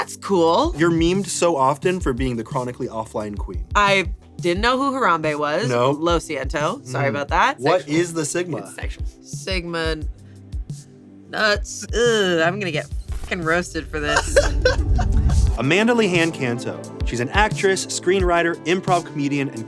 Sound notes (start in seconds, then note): 11.8 groans; 14.0 laughs